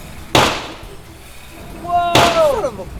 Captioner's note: firing